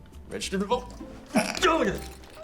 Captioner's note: stifled sneeze